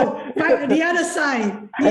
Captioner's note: laughs